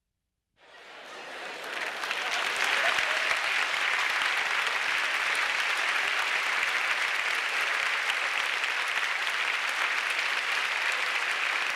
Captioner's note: applause